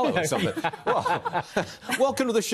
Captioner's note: laughter